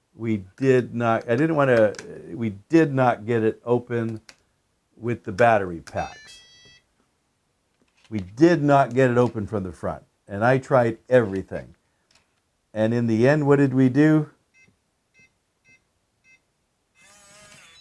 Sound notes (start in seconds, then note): 6.0 powerbolt beeping; 15.2 keypad tone